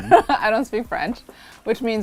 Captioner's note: laughs